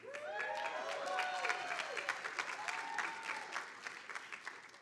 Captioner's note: audience applauding